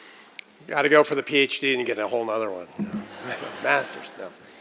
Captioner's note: laughter